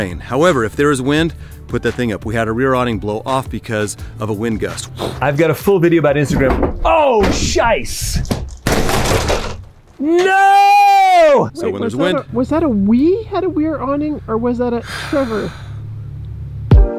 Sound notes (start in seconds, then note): 6.2 knocks; 8.1 bang; 14.8 sighs; 16.7 upbeat music